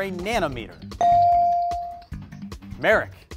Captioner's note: bell rings